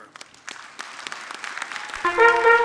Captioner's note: audience clapping; upbeat music